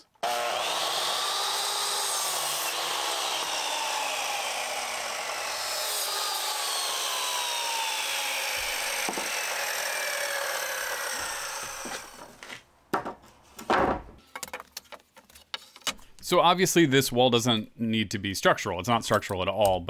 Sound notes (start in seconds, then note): 2.0 miter saw spinning up and cutting 2x4's